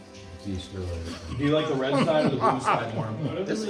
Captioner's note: triumphant laughter